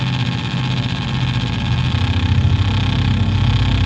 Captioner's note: static sounds